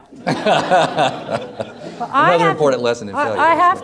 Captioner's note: everyone laughs